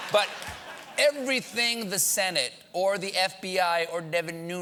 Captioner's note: laughter